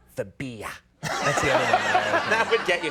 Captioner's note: audience laughs